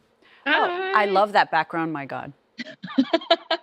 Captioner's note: laughter